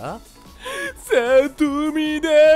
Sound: inhale

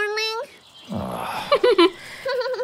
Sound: chuckles

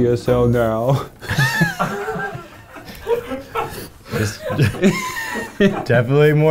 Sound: laughing

